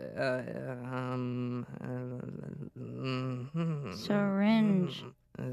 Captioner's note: stammering; whispers